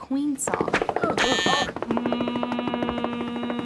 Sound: buzzing

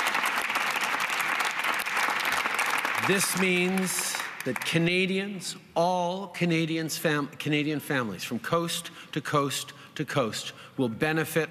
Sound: applause

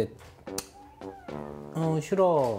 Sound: sad meow

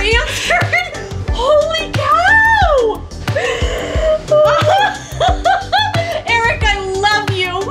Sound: mom laughing

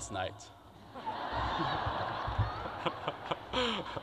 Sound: crowd laughter

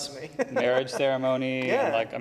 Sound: laughs

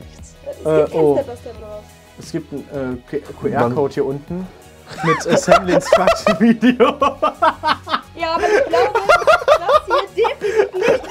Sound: laughing

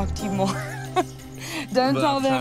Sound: laughs

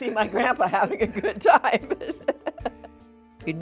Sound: laughs

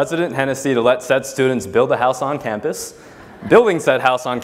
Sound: laugh

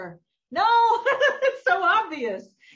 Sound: laughs

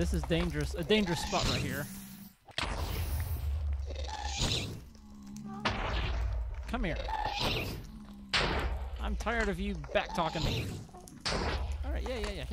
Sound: shrieking and explosions continue

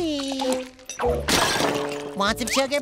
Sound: shattering

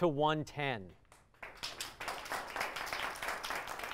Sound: applause

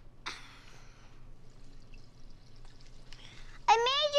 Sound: water splashing in bathroom

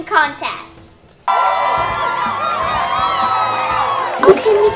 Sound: cheering

